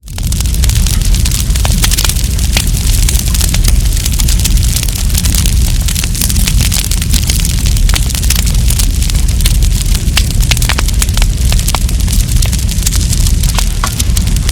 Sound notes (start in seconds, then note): 0.0 relaxing fire sounds